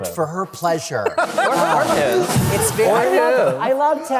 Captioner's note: laughter